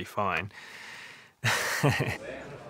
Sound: chuckles

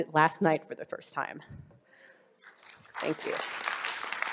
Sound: audience applause

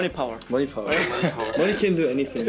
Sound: laughs

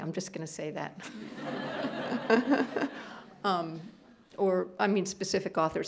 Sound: laughter

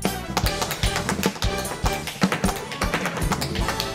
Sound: tap dancing

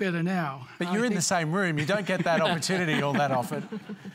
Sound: laughter

